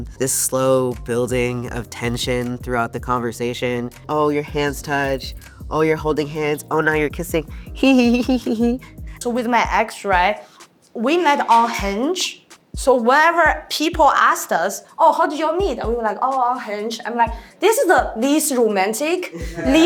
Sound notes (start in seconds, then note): 7.8 giggles